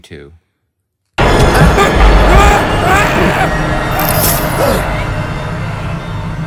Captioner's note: scary music; Ben yells